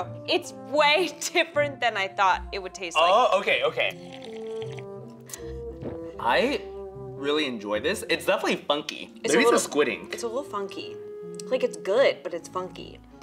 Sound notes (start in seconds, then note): 3.8 slurping lightly